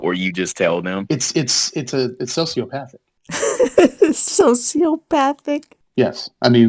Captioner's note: laughing